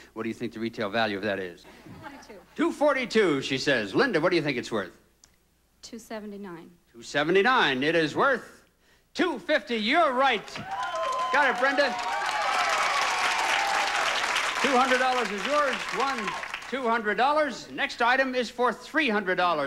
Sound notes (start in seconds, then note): 12.0 audience applauding